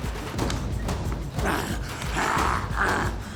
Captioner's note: groaning